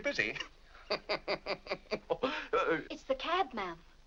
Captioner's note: laughs